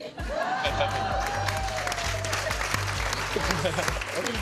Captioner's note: cheering & applause; laughs